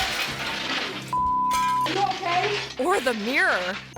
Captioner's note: glass shattering; beep